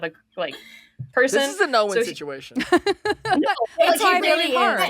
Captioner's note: she laughs